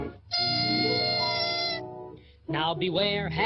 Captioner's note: air screeching